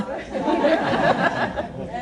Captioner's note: laughter